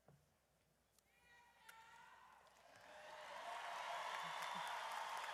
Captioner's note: audience cheers